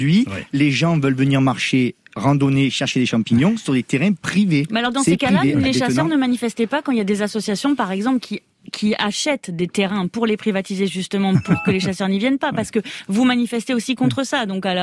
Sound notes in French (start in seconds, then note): 4.8 Voix journaliste